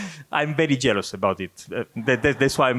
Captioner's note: laughs; audience laughing